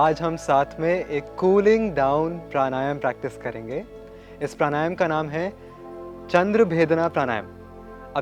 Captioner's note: breathing